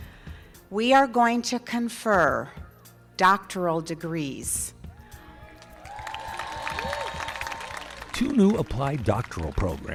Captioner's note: applause